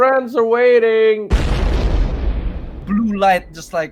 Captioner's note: explosion